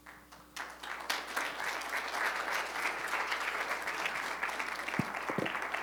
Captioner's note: applause